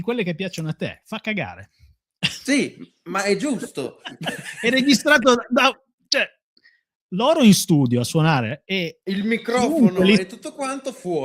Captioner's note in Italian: risate